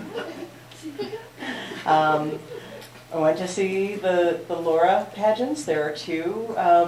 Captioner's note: laughter